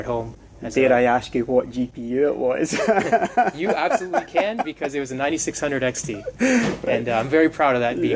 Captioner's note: laughs